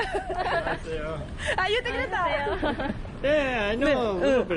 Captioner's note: laughs